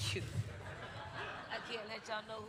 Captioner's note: crowd laughing; chuckles